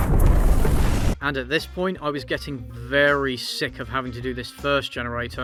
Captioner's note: toilet explodes